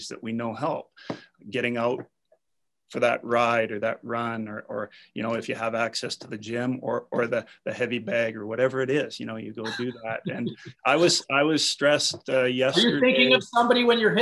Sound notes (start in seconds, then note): 9.6 laughs